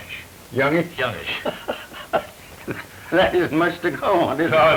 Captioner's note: both laughing